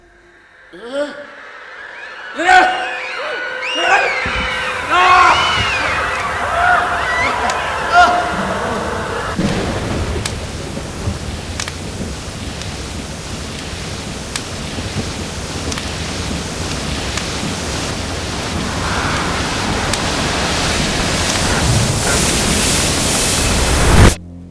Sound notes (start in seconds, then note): 0.5 Frantic screaming. Bedlam. Dracula yells in fear; 9.3 thunder. The sound of torrential rain